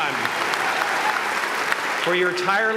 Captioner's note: applause